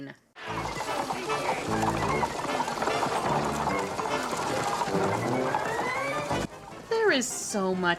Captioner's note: horses galloping and bright music